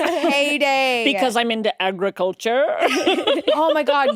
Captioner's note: laughs